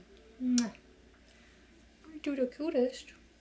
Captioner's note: kiss smacking